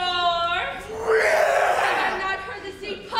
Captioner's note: Grumio roars